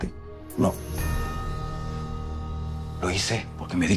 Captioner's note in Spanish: none